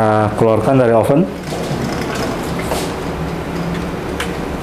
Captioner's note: opening oven door; PET film sound